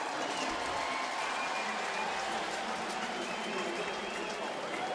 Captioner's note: cheering